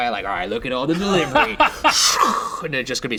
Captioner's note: laughing